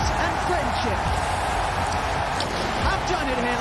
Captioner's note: crowd cheering